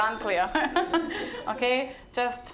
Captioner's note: all chuckling